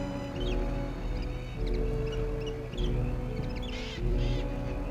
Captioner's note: animals chittering